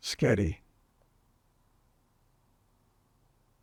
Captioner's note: pauses 6 seconds